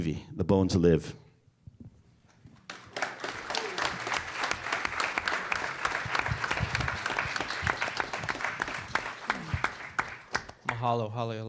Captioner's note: applause